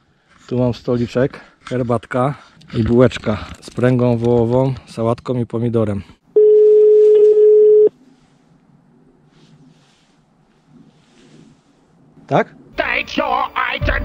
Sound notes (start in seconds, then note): 6.3 phone rings